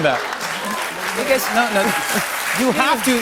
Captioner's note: applause